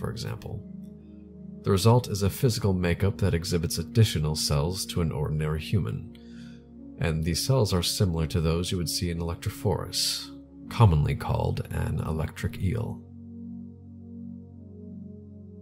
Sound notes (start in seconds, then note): none